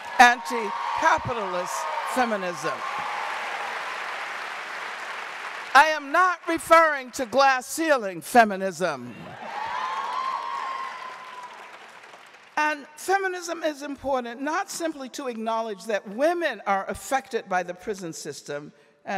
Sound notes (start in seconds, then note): 2.9 audience cheering and applauding; 9.3 audience cheering